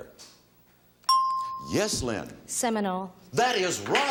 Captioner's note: bell chimes